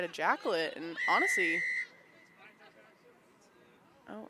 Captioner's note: whistle blows